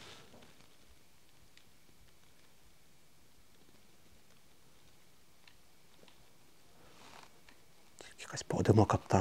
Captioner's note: and silence